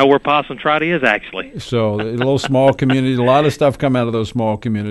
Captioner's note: chuckles merrily